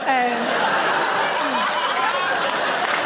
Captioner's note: audience laughs; audience applaud